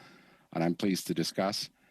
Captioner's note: speaking French